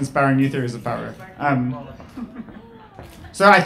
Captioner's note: laughing